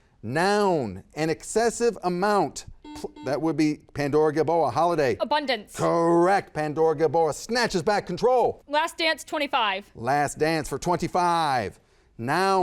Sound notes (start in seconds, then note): 2.8 buzzer buzzes